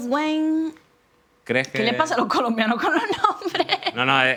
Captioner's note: laughing